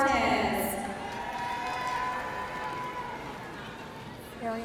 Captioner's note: audience cheering